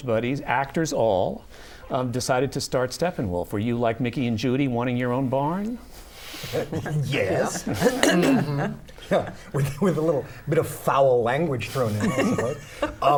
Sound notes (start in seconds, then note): 6.1 laughter